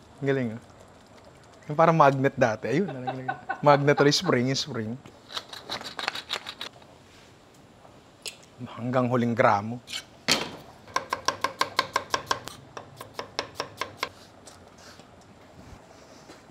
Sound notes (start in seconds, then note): 2.8 laughs